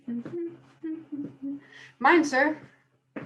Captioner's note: gravedigger humming